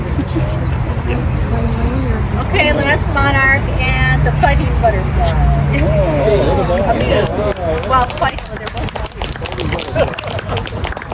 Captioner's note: applause